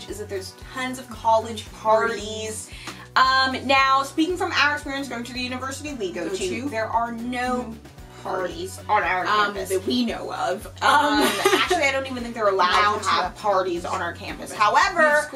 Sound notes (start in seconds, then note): 11.0 laughs